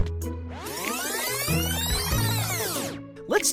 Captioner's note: fast forwarding